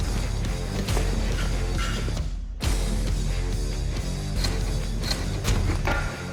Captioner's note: blade impact sounds